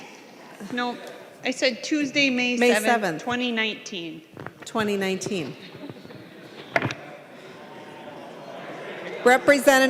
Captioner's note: gavel